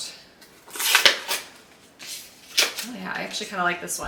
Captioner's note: tape unwrapping